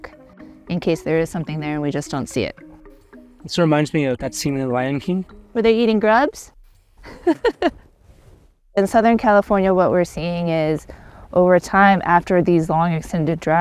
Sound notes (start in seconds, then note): 7.0 laughs